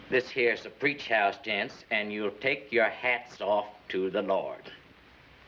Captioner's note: none